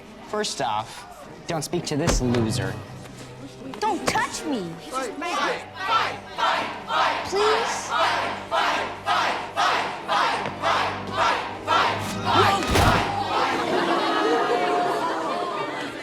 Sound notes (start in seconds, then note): 12.6 thud; 13.1 laughing